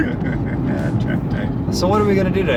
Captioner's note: laughs